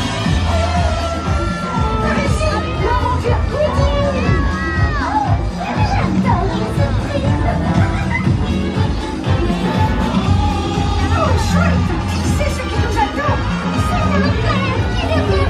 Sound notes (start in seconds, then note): 2.4 Mickey speaks in French; 6.3 upbeat music